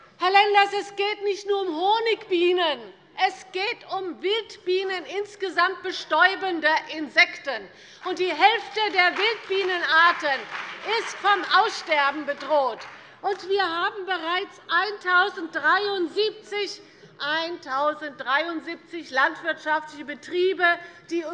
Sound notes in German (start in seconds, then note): 8.0 Beifall bei der CDU und dem BÜNDNIS 90/DIE GRÜNEN